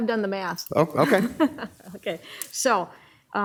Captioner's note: laughing